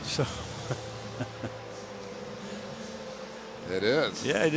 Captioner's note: laughs